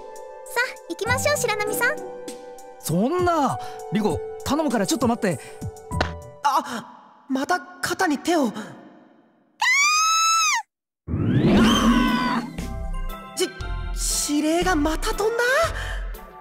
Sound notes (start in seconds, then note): 11.2 panicked scream